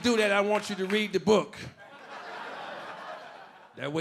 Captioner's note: audience laughing